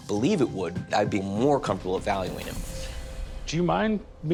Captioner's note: none